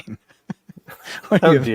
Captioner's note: laughing